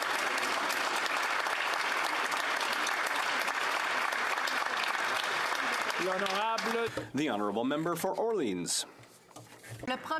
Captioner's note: applause